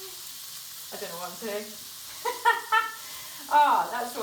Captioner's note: laughs